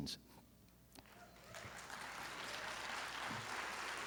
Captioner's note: applause